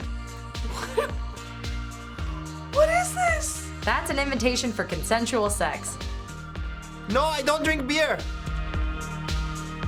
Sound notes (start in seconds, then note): 6.8 odd accent